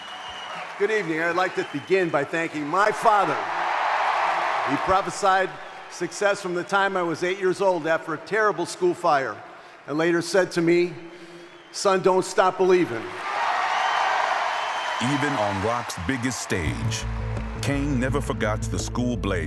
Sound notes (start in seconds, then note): 2.0 audience cheering; 12.8 audience cheering